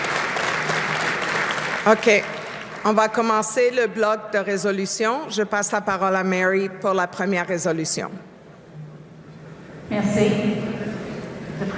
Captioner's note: applause